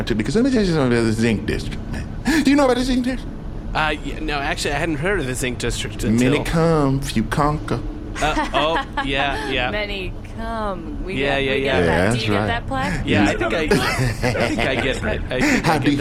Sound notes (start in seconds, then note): 9.8 laughs